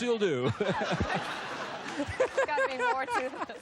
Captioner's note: laughs